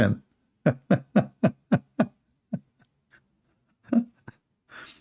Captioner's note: Ketawa